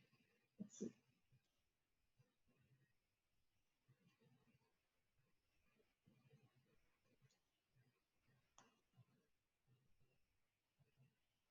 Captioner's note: pause